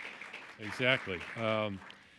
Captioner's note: applause